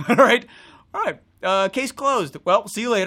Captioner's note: laughs